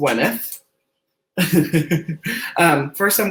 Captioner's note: laughs